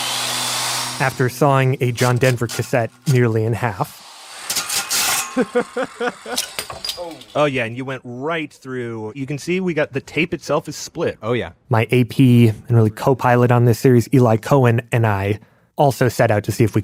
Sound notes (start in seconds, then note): 3.8 sound of saw cutting plastic; 5.2 laugh